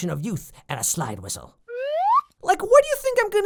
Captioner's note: slide whistle SFX